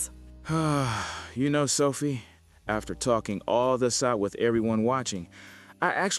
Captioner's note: long exhale